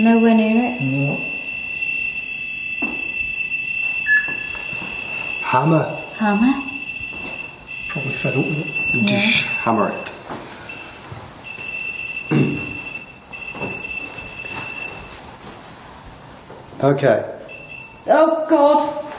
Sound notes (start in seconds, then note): 4.0 beep; 10.4 high pitched beeping continues